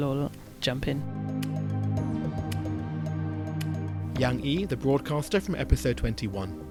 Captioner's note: voiceover